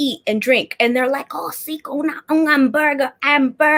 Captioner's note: speaking Spanish